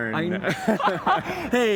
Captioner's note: laughter